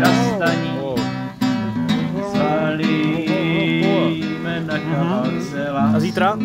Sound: affirmative mumbling

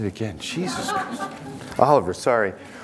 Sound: audience laughing

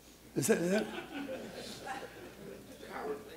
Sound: laughter

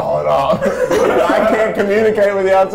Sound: laughing

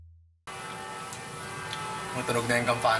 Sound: bells ringing

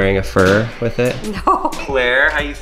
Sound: laughing

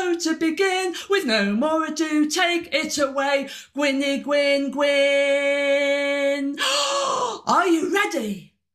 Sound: gasp

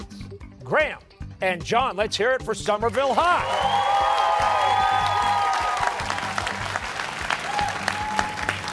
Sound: cheers and applause

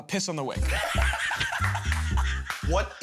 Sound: laughs

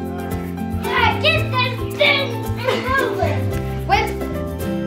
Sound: excited chattering

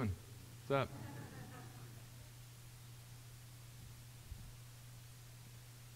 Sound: audience chuckling

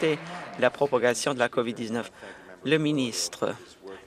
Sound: some Applause

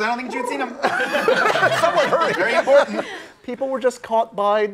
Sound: laughing

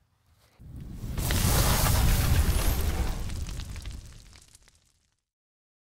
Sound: low sizzling sound

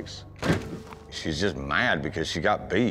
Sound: door slams

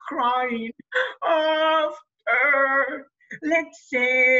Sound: cries

